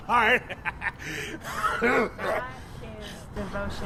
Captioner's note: laughing, Coughing